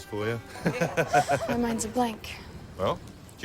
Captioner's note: laughs